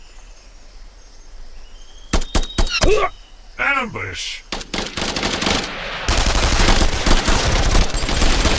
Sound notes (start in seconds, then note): 2.1 gun blasting; 2.8 trooper groans; 4.5 guns blasting